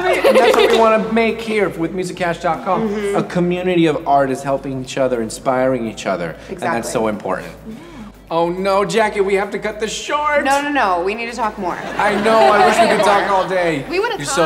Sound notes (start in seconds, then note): 0.4 clapping; 11.8 audience laughs